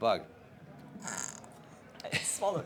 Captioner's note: snorts